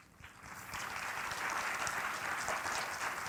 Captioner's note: applause